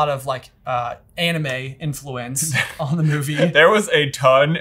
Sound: laughing

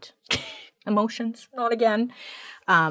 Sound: chuckles

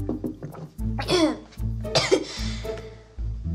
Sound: coughing

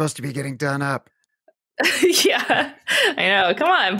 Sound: laughs

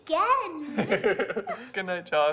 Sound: Thomas laughs

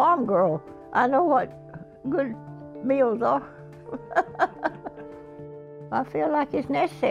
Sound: chuckles

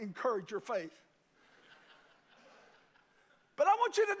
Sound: congregation laugh

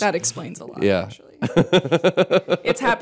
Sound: laughter

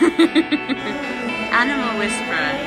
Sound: laughing

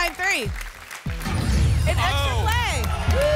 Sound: boom

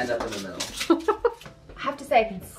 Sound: chuckling

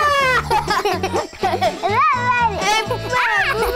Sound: children laughing

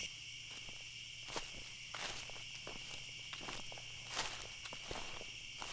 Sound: footsteps rustling

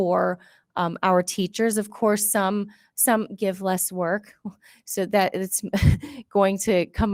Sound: laughs

